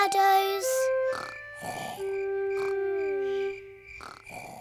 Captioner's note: george snoring